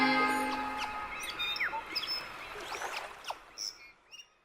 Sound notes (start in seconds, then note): 0.0 birds chirping; 0.6 waves crashing